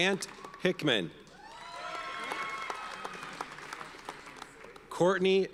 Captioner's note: audience cheers and applauds